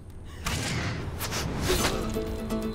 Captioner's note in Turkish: Ok fırlama sesi; Müzik - Dombra